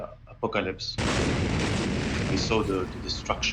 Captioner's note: explosion booming